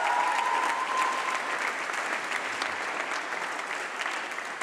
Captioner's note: applause